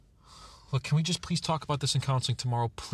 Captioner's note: sighs